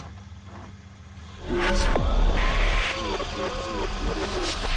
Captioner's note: tape whirring